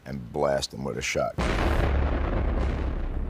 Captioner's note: disparo